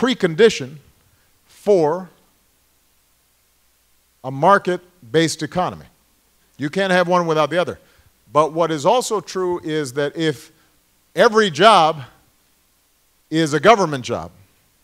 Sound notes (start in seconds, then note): none